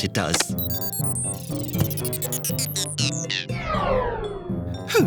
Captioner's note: computer sounds